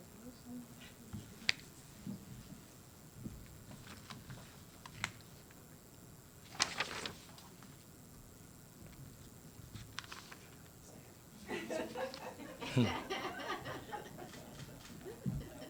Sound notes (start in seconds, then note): 11.4 laughs